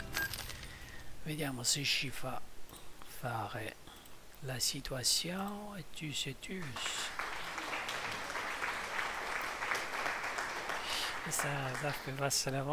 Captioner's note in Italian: Applauso